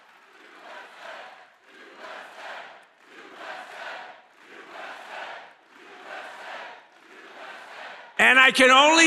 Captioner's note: audience chants "USA"